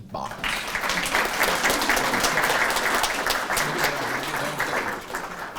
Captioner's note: audience applauding